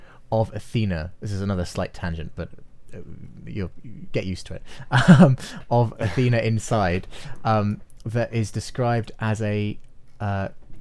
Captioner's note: chuckles